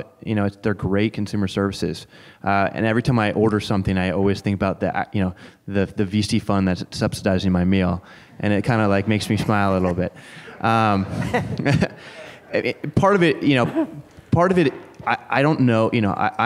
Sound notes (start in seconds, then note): 10.4 laughter